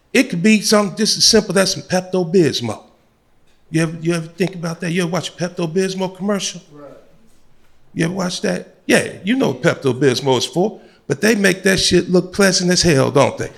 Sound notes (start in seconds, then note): none